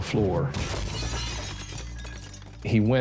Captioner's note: glass shatters